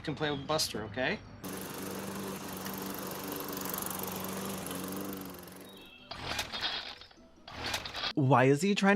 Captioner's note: sounds of a homophobe doing yard work poorly